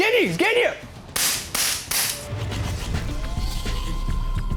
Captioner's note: gunshots